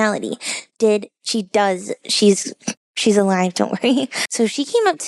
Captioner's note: laughs